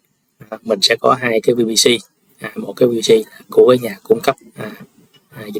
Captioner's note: clears throat